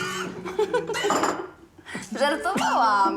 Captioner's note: laughs